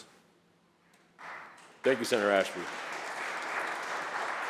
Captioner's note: applause